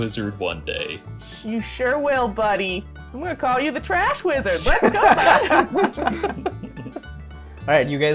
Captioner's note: laughter